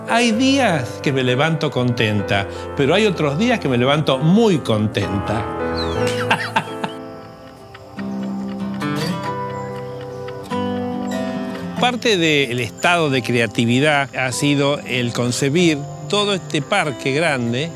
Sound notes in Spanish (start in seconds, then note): 6.0 risas; 9.1 música de guitarra